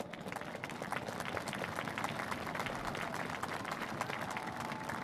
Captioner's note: applause